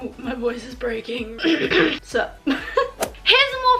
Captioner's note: cough